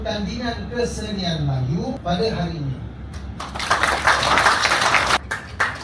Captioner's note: claps